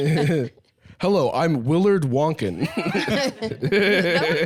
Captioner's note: laughing; laughs